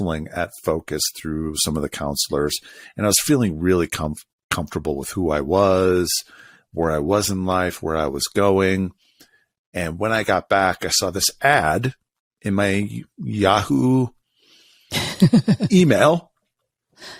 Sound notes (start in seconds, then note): 14.9 laughs